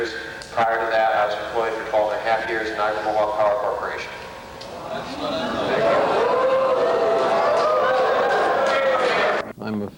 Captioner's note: crowd expresses displeasure